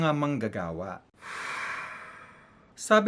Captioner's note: angry Sigh